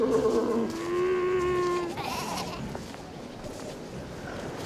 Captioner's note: sea lions groaning